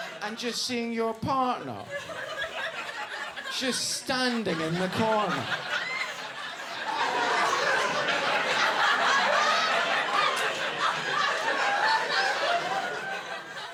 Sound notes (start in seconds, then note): 5.4 audience laughing